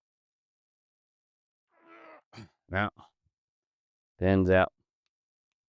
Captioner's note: grunting